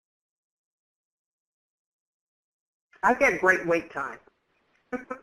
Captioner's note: laughing